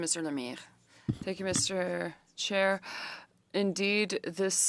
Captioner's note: speaking French